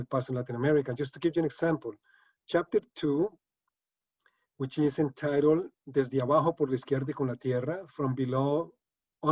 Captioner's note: speaking spanish